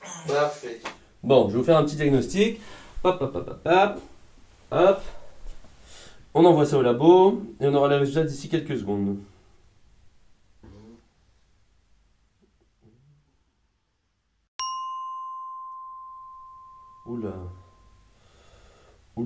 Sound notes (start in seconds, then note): 14.6 ding